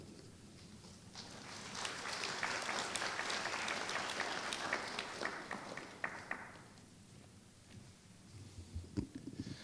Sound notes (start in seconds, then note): 1.0 applause